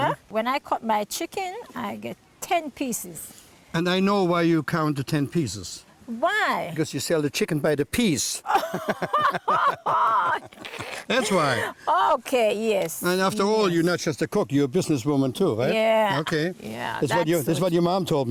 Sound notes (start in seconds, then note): 8.4 laughter